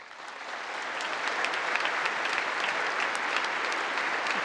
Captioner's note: congress applauding